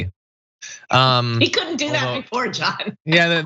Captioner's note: laugh